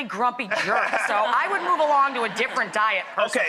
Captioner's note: laughter